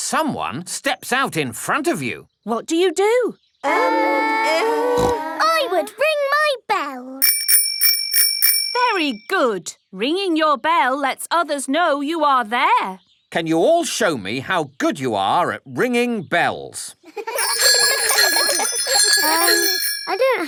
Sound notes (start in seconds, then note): 4.9 peppa snorts; 7.2 rings bell; 17.2 giggling and ringing bells